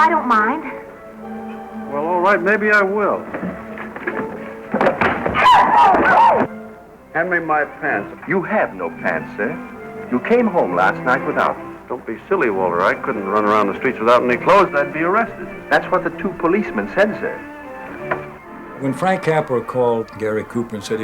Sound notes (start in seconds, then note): 5.2 yelling